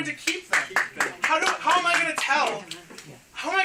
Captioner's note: clapping